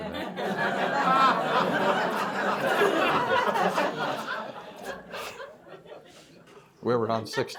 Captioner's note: laughter